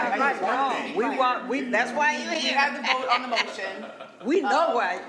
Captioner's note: laughing